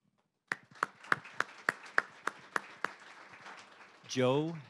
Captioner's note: applause